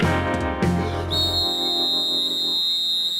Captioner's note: whistle blowing